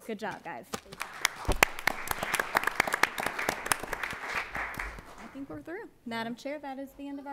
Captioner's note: applause